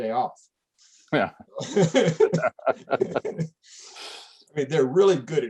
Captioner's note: laughter